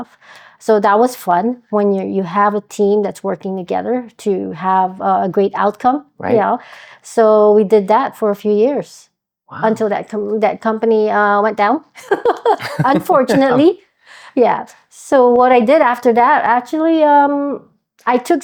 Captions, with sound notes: So that was fun when you have a team that's working together to have a great outcome. Right. Yeah. So we did that for a few years. Wow. Until that company went down. (laughs) Unfortunately. Yeah, so what I did after that, actually I took